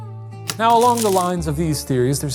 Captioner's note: projector clicking